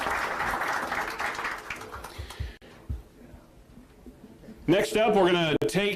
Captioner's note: applause